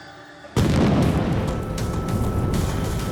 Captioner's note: explosion